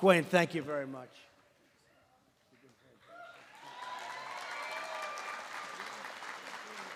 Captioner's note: applause